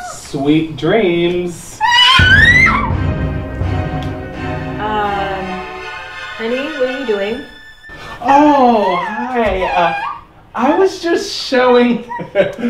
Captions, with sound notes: Sweet dreams. (Cat screams) Um, honey what are you doing? Oh, hi! Uh I was just showing (Laughter)